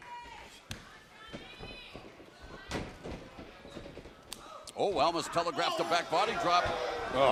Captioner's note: crowd chatter